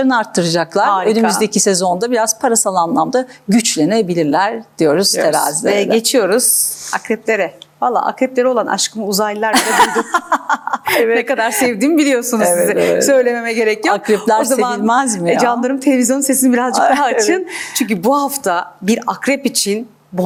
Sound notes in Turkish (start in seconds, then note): 9.5 kahkaha